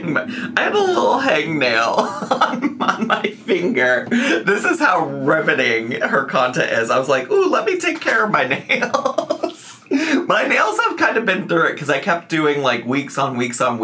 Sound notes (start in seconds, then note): 8.4 laughs